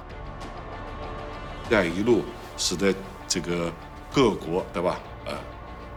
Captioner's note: speaking foreign language